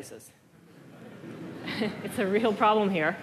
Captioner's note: laughter